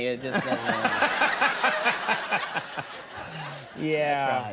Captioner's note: all laughing